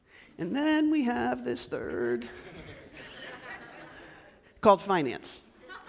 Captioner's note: laughs